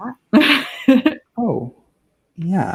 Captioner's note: laughing